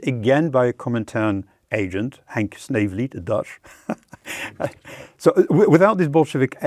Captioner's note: laughs